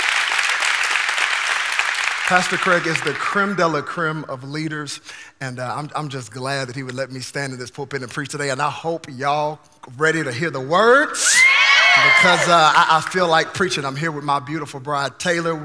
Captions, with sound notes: Pastor Craig is the creme de la creme of leaders, and I'm just glad that he would let me stand in this pulpit and preach today, and I hope y'all ready to hear the words, (congregation cheering) because I feel like preaching. I'm here with my beautiful bride, Taylor.